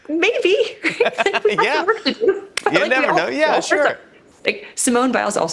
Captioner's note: laughs